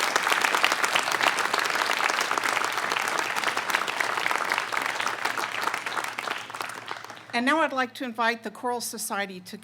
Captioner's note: applause